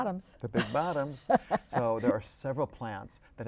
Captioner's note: laughter